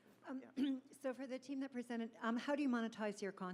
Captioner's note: voiceover